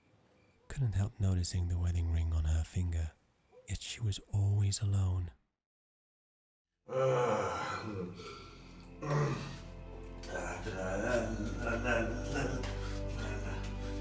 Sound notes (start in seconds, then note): 6.9 man sighing loudly; 10.1 man drunkenly singing